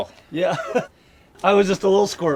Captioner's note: laughs